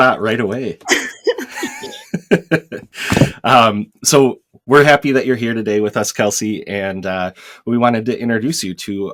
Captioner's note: laughter